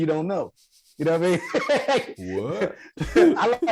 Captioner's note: Rel laughing